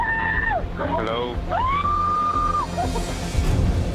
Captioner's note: woman screaming